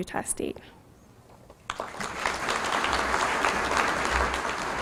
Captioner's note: applause